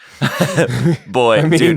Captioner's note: laughter